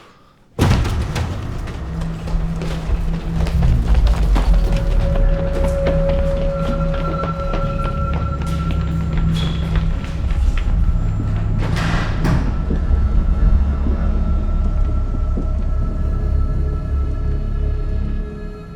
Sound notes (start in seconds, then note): 0.5 doors slammed open; 8.4 distant people running